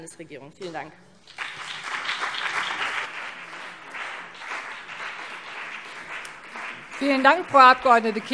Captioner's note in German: Beifall BÜNDNIS 90/DIE GRÜNEN und CDU